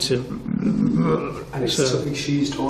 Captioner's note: growls